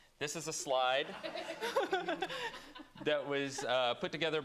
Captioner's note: laughter